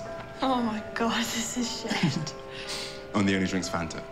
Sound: chuckles

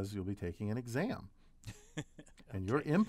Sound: laugh

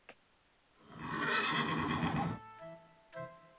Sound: whinnying

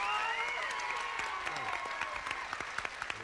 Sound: audience applauding

